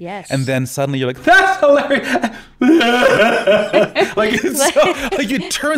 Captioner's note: weeping